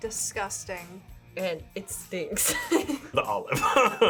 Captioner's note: laughs